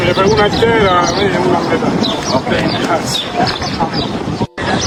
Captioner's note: CLIP: Spanish-language audio